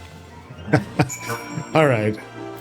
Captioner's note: laughing